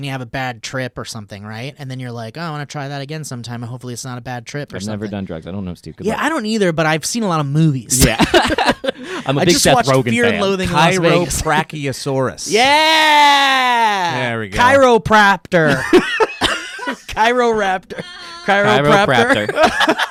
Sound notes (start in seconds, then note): 8.0 laughing; 15.6 laughing